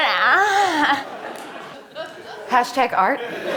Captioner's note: audience laughing